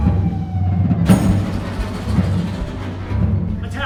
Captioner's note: cannonball whisling through the air; explosion